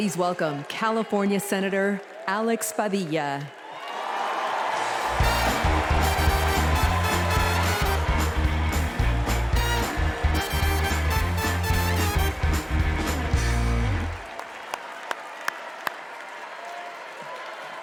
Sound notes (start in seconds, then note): 6.8 cheers and applause